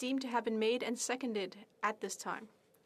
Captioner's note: speaking French